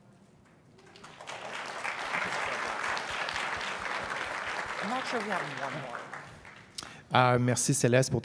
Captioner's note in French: applause